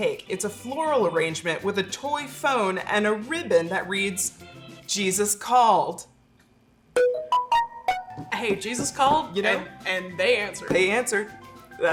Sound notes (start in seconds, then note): 7.0 phone dings